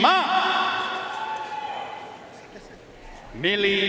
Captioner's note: audience cheering and applauding